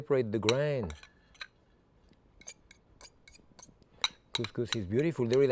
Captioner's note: fork scraping